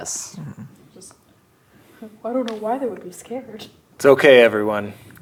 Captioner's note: sarcastically